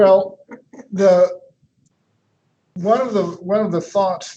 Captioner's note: chuckles